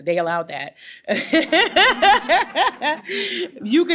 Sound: laughter

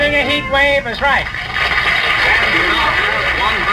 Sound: audience applauds

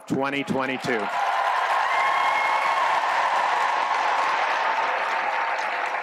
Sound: applause

